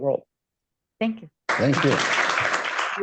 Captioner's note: applause